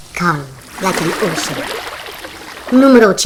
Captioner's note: sound of waves and the sea